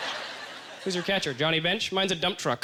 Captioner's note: audience laughter